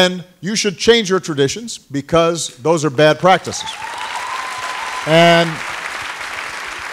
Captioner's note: applause